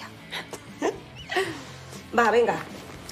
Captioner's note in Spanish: Risas